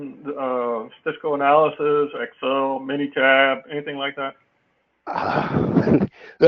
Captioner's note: laugh